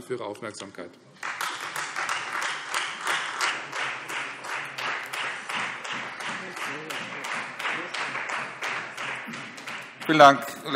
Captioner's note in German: Beifall Freie Demokraten